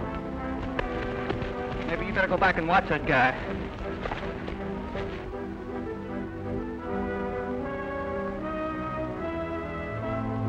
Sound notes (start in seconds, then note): none